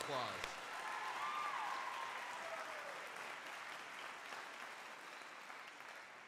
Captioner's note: crowd cheering and applauding